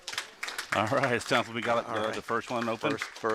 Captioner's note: Clapping in the Delta Launch Control